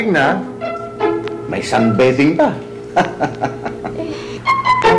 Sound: laughs

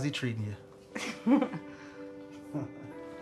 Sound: chuckling

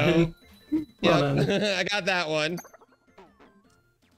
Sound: laughs

